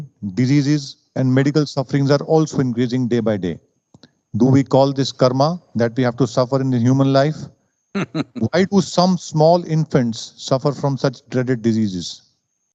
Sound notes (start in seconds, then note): 8.0 Sadhguru laughs